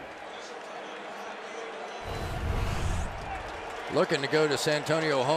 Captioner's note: pa announcement